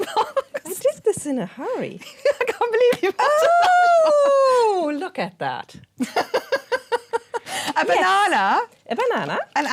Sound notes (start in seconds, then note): 3.2 laughing; 6.9 laughing